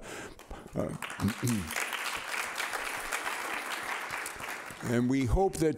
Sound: audience applauding

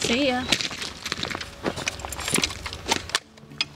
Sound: footsteps; keys jangle

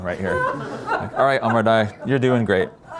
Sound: laughter

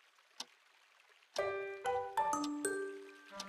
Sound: clock sound

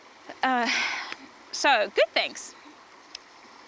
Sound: sighs

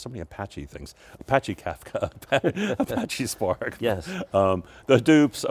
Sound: laughing

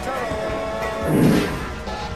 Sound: fart noise interrupts

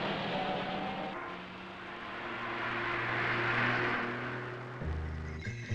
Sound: sound of truck engine; sound of vehicle traffic

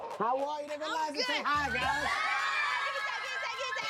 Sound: kids screaming

